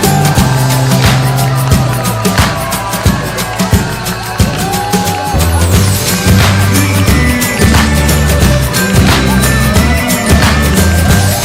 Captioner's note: crowd cheering and clapping